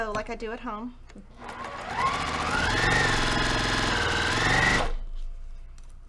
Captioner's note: sewing machine rattling